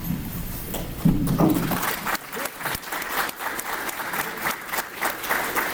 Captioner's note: applause